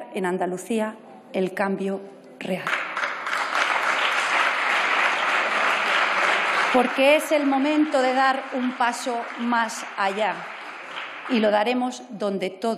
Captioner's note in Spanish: Aplausos